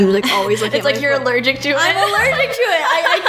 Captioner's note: laughs